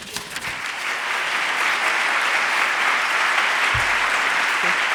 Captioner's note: audience applauding